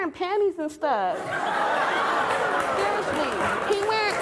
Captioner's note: audience laughing